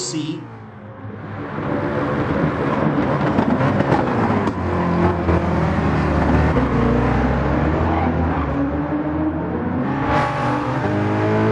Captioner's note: engines revving, cars noises